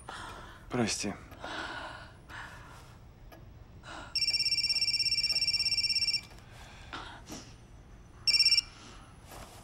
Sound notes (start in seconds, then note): 4.1 phone ringing